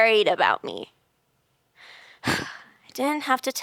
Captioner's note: sighs